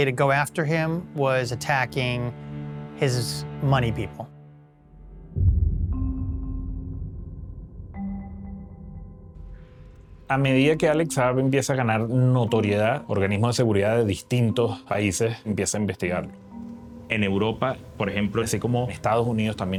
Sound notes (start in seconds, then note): none